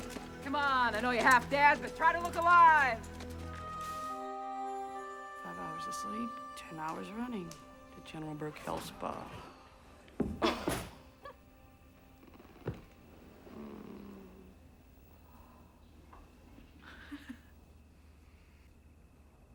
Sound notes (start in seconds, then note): 9.6 thud; 10.4 giggle; 13.3 groans; 16.8 chuckles